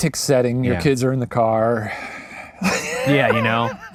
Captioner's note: laughs